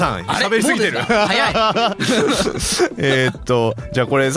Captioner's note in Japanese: 笑い